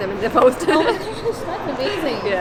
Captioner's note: Kubra giggles